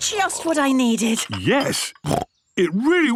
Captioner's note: snorts